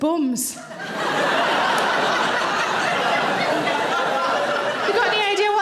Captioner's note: audience laughing